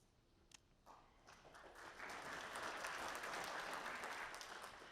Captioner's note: audience applauding